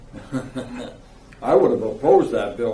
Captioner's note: laughing